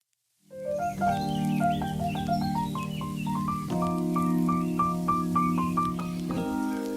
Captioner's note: joyful bright music; birds chirping